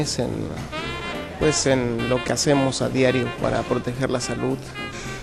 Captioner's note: foreign Language Spoken